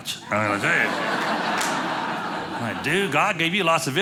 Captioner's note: audience laughing